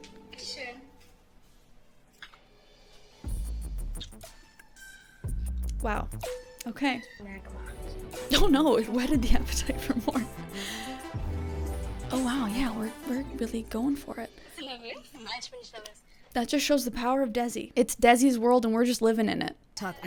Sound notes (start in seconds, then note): 0.1 show contestant speaking in German; 2.7 slow-tempo music; 7.4 speaking in German; 10.6 slow-tempo music